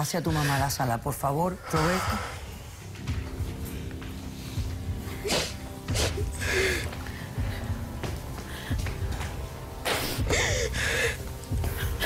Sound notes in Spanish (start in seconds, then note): 5.8 Sollozos